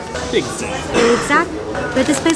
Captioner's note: murmuring